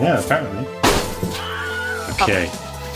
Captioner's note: box thudding; fake distant yelling